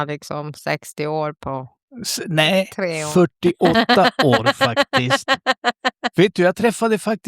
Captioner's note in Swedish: skratt